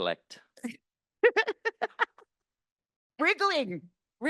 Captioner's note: laughing